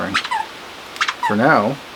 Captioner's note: dog toy squeaking